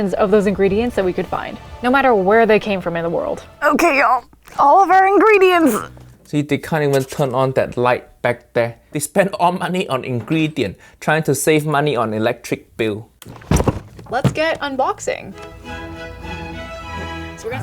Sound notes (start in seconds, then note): 13.2 kitchen stuff thuds; 14.3 lively music